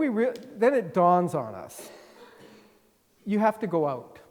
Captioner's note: attendee coughing